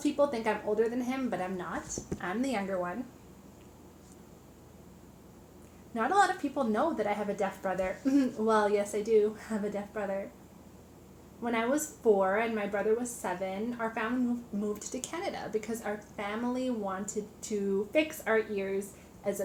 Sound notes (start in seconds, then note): 8.0 chuckles